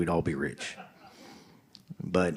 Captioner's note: audience laughing